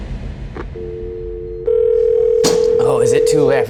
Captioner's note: tense music; static buzzes